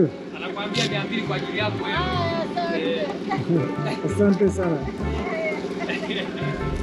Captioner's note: In Swahili